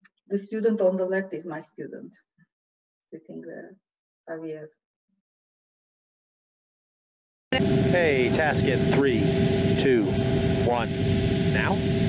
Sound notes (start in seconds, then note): 7.5 engine humming